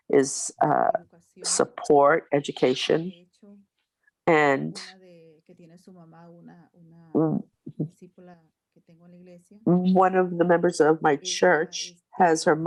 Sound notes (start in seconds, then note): 4.5 continues speaking Spanish